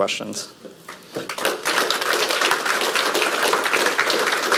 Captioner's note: audience applauds